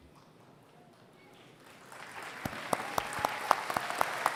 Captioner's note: applause